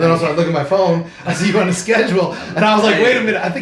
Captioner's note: laughs